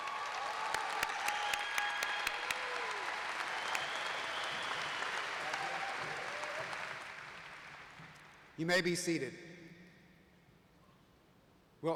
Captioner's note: applause